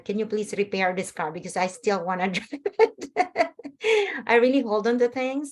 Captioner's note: laughs